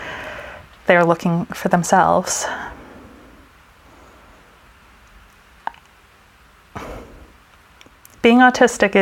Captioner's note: sigh